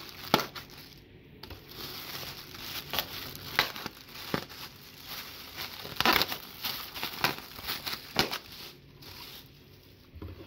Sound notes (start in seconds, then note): 0.1 knife punctures packing airbags; 3.1 knife punctures multiple packing airbags